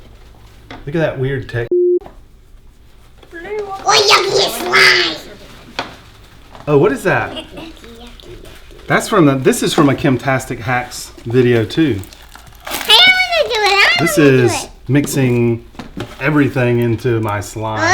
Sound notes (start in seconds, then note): 1.7 beep